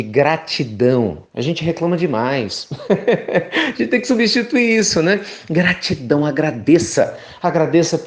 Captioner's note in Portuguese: risos